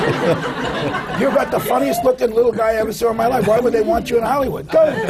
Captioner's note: laughter